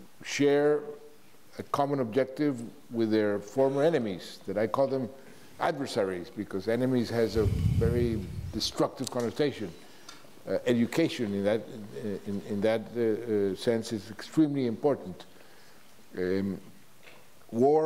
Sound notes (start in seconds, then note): none